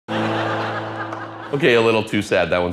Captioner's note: laughter